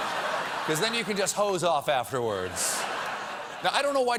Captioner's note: laughter